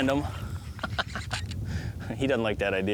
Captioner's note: laughing